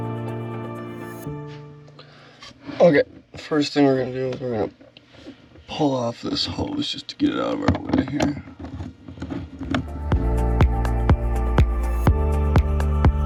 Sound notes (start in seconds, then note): 8.7 screwdriver thumping; 9.9 bright dance music